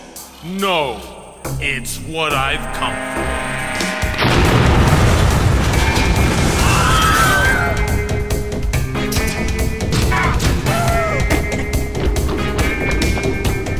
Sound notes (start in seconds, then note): 4.2 huge explosion; 6.4 Red Helmets Scream; 6.5 huge explosion; 11.5 court Herald Laughing